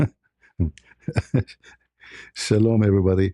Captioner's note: ketawa